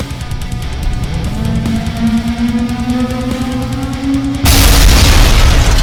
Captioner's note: tentacle beast blares; ground crashes